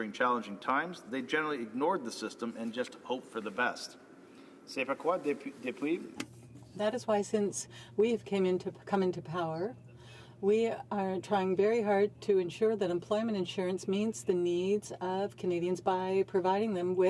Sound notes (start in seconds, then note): 9.4 speaking French